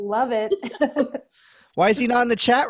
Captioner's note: laughing